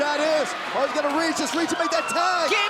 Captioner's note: crowd cheering